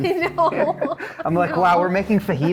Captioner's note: laughs